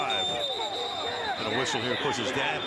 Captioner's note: whistle